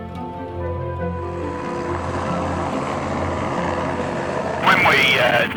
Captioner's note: helicopter motor